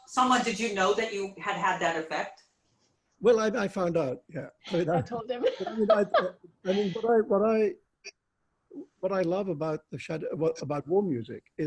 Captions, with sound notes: - Salman, did you know that you had had that effect? - Well, I found out, yeah. - I told them (laughs). - I mean, what I love about The Shadow, about War Music,